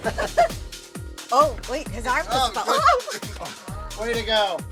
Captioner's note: laughing; laughs